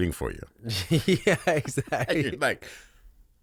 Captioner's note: laughs